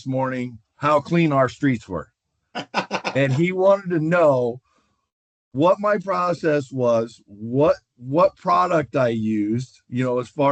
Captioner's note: laughter